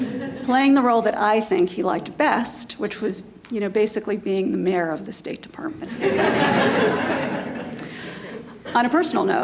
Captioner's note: laughter